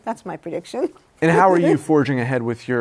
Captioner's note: laughs